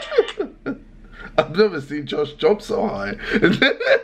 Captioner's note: laughing; laughing